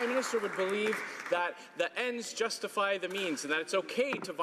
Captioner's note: some Applause